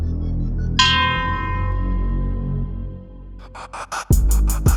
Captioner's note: bell ringing; intense music